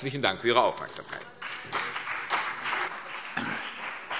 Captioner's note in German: Beifall CDU und BÜNDNIS 90/DIE GRÜNEN